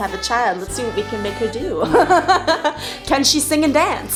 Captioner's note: laughing